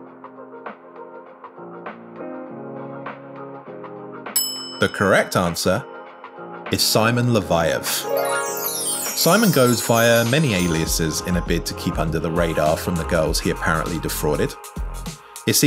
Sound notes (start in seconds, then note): 4.3 bell rings; 7.9 bright chimes